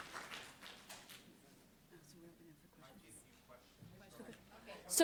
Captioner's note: applause